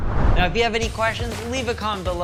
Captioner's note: whoosh